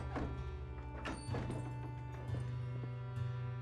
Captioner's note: none